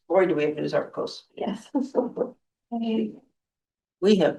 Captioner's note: laughter